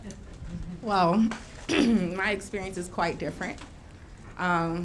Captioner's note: clears throat